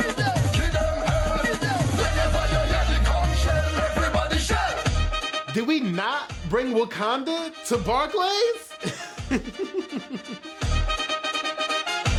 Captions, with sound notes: - Did we not bring Wakanda to Barclays? (laughs) (upbeat music)